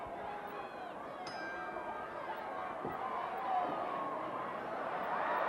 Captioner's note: bell ringing